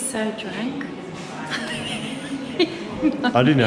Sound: laughing

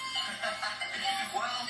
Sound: laughs

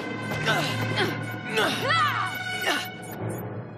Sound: both grunting; beeping

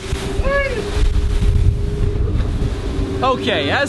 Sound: waves crashing

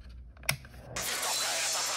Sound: click

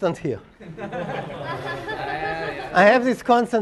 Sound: laugh

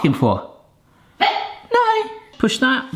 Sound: woof

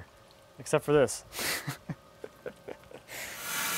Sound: laughs

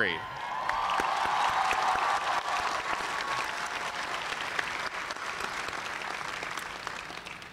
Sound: cheers and applause

